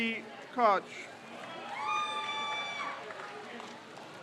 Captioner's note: crowd cheers